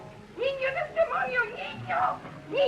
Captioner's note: speaking spanish